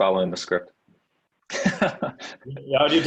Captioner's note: laughs